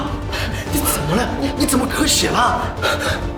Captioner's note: coughing up blood